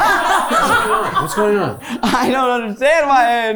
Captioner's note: crew members laughing; laughing; crew members laughing